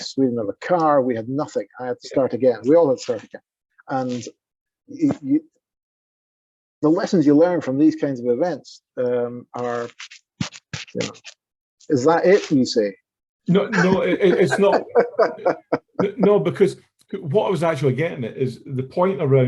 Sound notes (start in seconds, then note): 13.5 chuckling